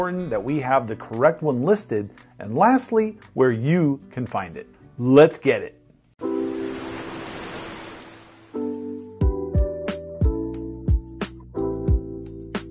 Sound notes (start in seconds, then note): 6.2 gentle ambient music; 6.3 waves crashing